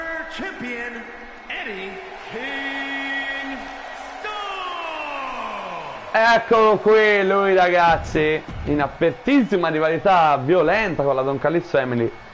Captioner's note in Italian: Applauso